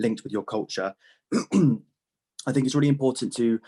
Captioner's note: clears throat